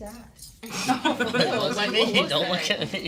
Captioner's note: students laugh